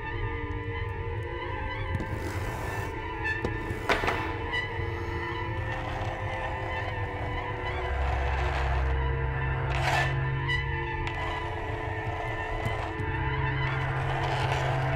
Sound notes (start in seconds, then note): 4.6 pulse of air